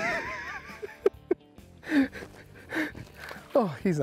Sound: laughing

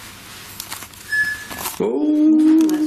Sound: alert beeping

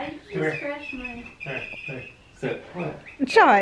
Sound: grunting; mouse squeaking

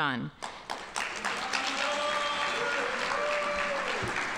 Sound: audience applauding

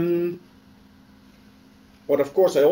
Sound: pause

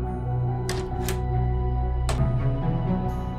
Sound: doors open

